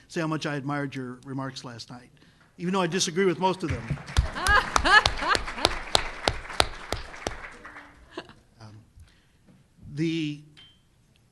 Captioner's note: laughter